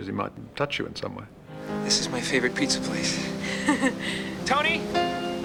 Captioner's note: laughing